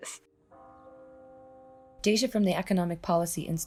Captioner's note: bell chiming